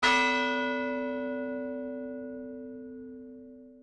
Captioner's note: bell chimes